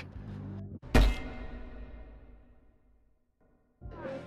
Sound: metallic clank

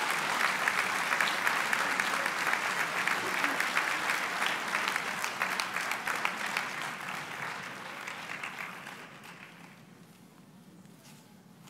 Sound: applause

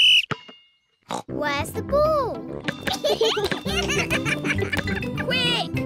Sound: blows whistle; snorts; both laugh

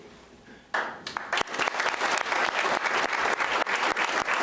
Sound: applauding

